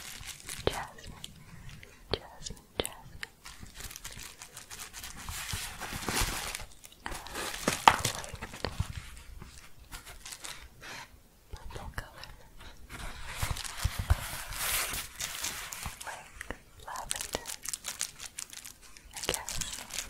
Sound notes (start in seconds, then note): 3.5 crinkling; 11.6 shuffling and crinkling